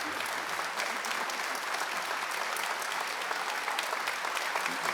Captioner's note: audience clapping continues